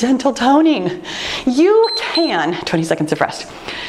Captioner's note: timer beeps